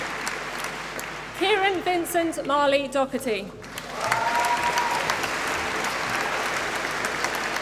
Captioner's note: applause